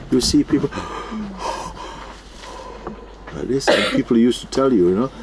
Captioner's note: imitates loud breathing